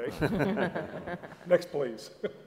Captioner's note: laugh